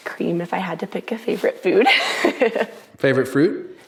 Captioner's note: laughs